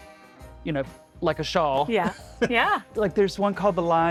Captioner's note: laughing